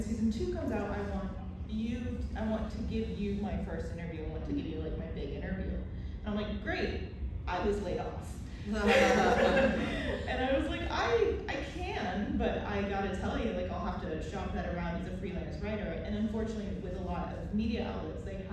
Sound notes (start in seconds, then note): 8.8 laughter